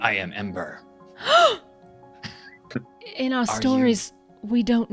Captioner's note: gasps loudly